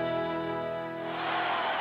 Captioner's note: crowd cheering